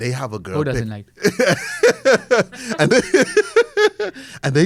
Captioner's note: laughs